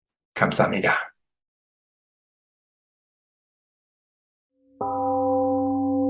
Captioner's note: temple gong rings and fades